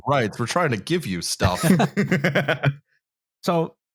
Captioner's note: laughter